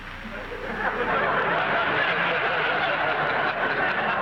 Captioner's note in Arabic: الجمهور يضحك